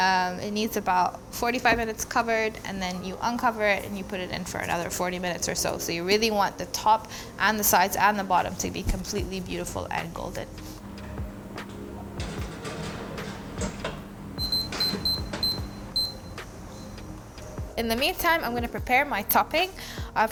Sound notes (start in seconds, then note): 14.4 timer beeps